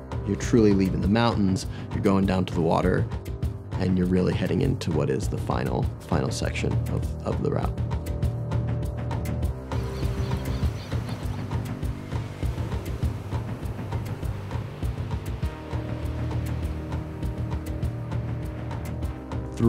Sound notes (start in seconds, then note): 8.7 tranquil instrumental music; 12.3 waves crashing; 14.9 tranquil instrumental music